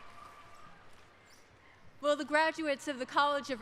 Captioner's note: applause